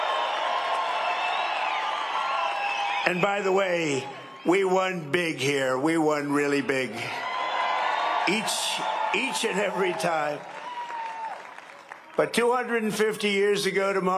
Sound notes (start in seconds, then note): 3.4 cheering and applause